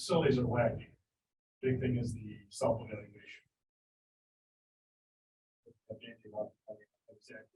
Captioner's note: audio drop